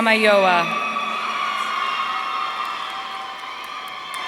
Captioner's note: audience cheering